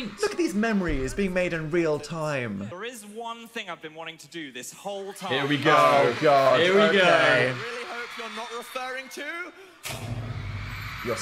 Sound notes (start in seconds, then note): 5.2 crowd screaming; 9.8 dramatic music; 9.8 crowd cheering